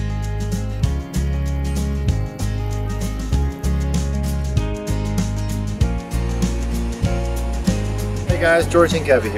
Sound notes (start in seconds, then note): 5.9 rushing water